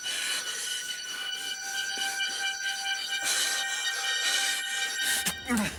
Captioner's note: breathing heavily